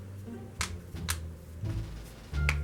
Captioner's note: pops knuckles